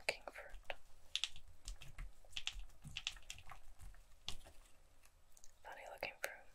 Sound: crinkles

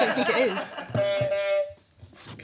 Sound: honk

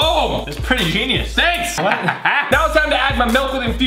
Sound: sinister laugh

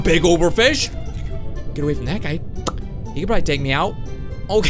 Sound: mouth smacks

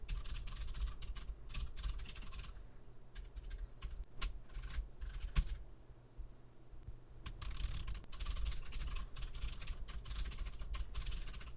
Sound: typing sounds

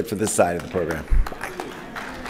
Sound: applause

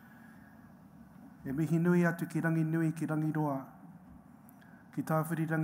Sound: speaks foreign language

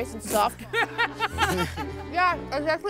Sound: laughs

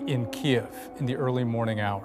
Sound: sirens

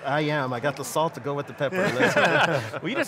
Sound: laughs

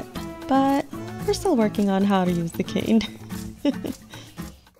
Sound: laugh

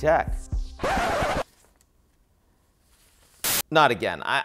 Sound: record scratches

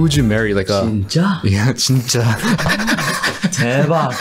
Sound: foreign language; laughs

